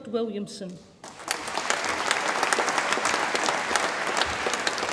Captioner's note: audience applauds